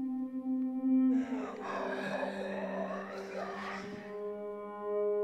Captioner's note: mummy growling